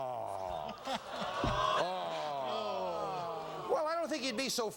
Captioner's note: audience groans